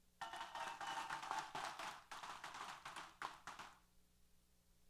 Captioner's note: applause & Cheers